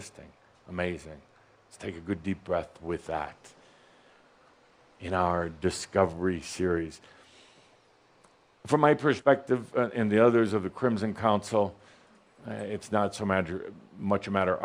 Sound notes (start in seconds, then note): none